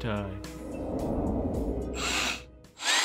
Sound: ghostly swoosh; BB-27 whirs

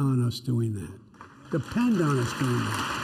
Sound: applause

